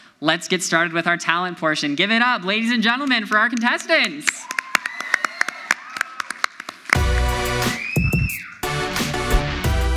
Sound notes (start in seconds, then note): 4.1 audience applauds; 4.2 audience cheers; 6.9 upbeat music